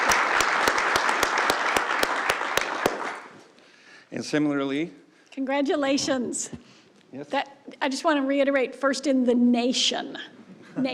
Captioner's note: applause